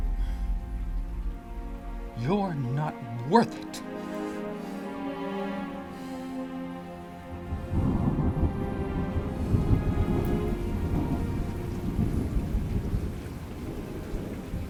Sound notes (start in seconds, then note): 3.8 gentle music; 7.3 thunder rumbling